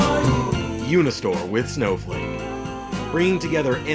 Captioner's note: voiceover